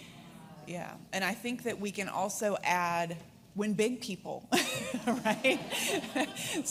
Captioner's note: laughs